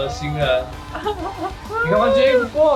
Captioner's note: laughs